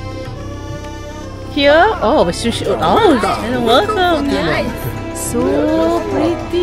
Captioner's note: speaking German